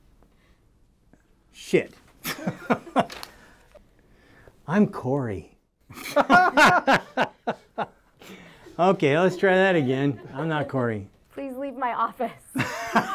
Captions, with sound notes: - Shit (both laughing) I'm Corey. (laughing) Okay, let's try that again. I'm not Corey. - Please leave my office.